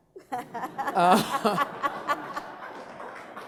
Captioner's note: laughing